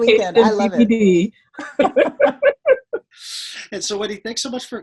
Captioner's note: group chattering